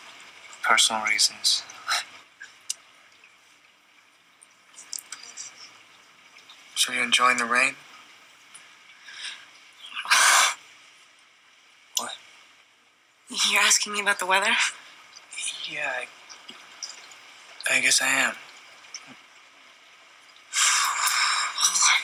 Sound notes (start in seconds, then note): 9.4 scoffs